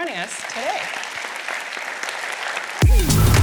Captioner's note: applause